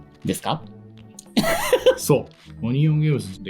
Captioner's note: laughs